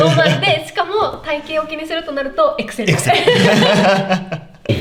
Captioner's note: laughs